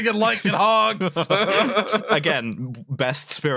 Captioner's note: laughter